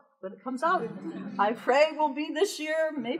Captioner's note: audience laughter